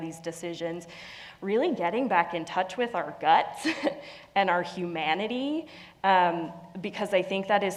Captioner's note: laugh